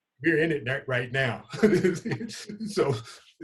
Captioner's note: laughing